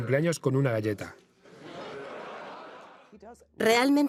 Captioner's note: audience laughs